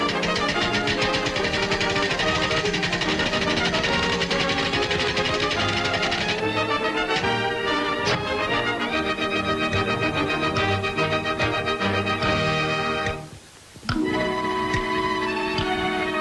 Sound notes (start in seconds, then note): 0.1 silverware clattering; 11.8 clock ticking